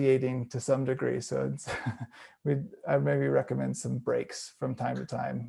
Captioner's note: chuckles